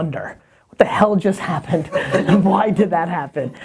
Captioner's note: laughter